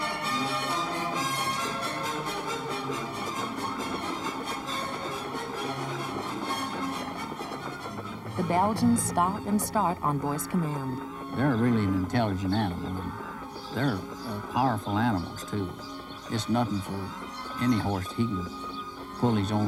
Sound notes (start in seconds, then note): 7.1 lively orchestral music; 7.8 hoof steps